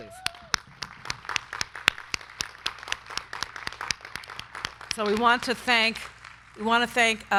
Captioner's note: crowd cheering; crowd clapping